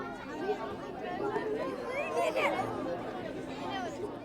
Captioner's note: people chattering